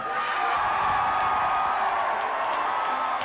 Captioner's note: cheering